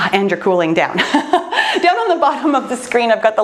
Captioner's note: laughs loudly